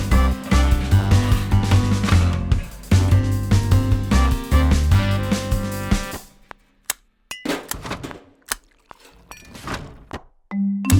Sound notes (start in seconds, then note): 6.3 knocking; 6.8 snapping; 7.3 clinking; 7.3 rattling; 8.6 liquid pouring; 10.5 upbeat rhythmic music